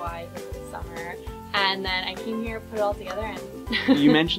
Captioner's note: laughs